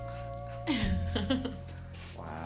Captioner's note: laughs